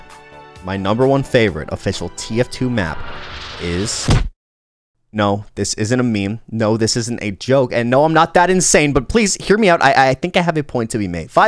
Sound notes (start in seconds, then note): none